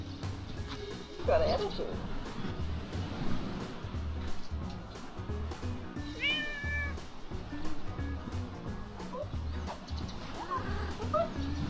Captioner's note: cat meow